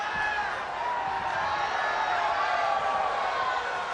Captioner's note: crowd reacts